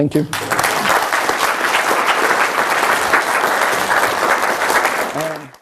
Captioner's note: clapping